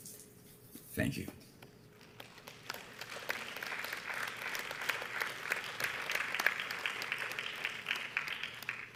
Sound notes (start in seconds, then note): 2.0 audience applauds